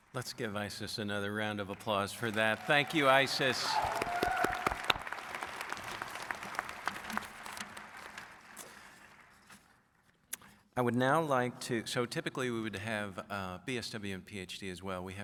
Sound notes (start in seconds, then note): 4.3 audience applauds